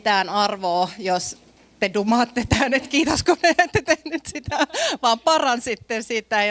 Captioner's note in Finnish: naurua